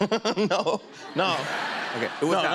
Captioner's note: laughs